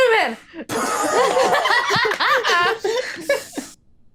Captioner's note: laughing